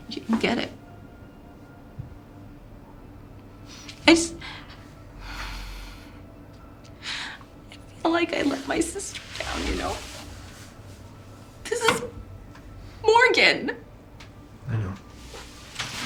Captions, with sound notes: You don't get it. I just, (crying) I feel like I let my sister down, you know? This is Morgan. - I know.